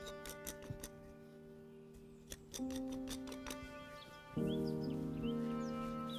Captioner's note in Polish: śpiew ptaków, odgłosy pracy kowala